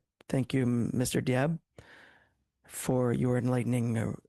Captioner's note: speaking French